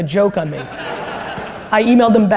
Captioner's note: audience laughter